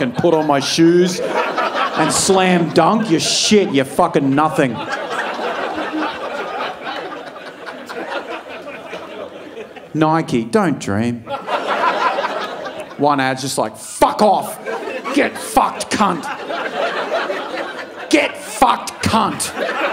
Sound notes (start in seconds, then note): 5.1 audience laughing